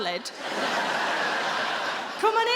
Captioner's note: audience laughing